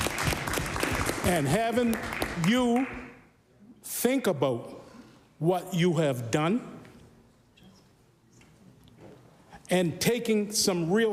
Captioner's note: applause